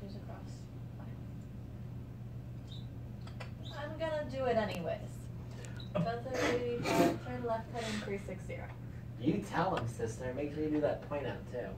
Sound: background chatter and banter

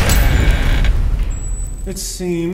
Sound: door swings

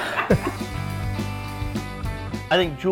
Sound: laughter

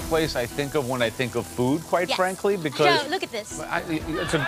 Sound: crowd cheering

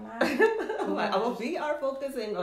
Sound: laughs

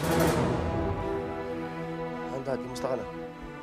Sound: breathing heavily

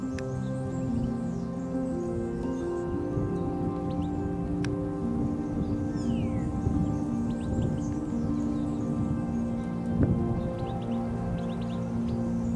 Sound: song of birds

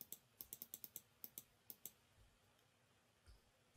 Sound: mouse clicks

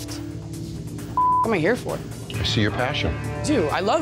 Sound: beep

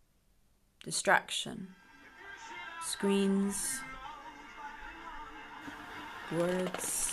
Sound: pages turning

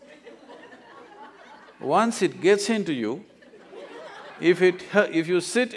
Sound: laughter; laughter

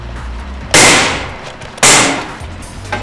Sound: loud bang

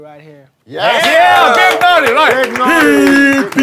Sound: sound of clapping

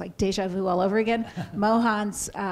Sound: chuckles

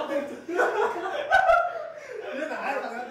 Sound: laughing

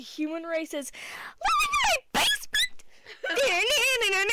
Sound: squeal

